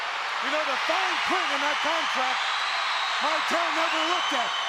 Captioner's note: crowd cheering drowns out commentator